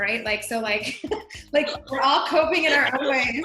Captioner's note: laughing